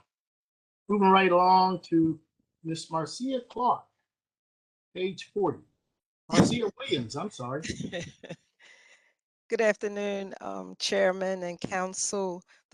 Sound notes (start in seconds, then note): 7.6 laughter